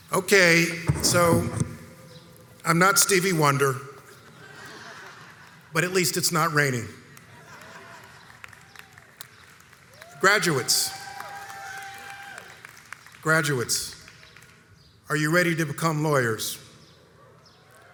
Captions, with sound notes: Okay, so I'm not Stevie Wonder, (audience laughs) but at least it's not raining. Graduates. (crowd cheers) Graduates, are you ready to become lawyers?